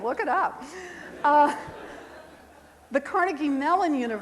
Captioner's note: crowd laughing